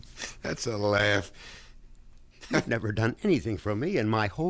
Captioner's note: laughing